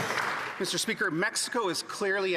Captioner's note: some Applause